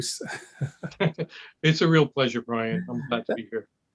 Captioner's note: laugh